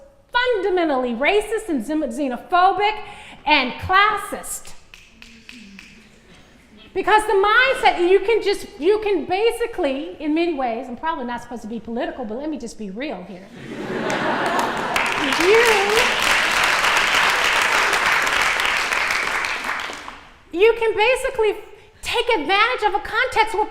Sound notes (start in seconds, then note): 13.5 laughter; 14.0 applause